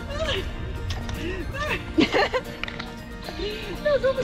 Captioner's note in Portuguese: Risos